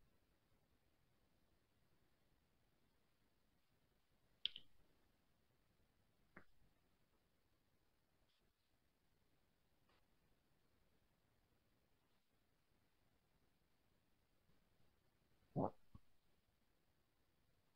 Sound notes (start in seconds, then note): 3.5 silence